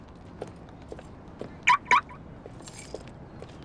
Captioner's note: car lock beeps